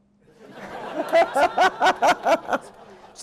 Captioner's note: laughter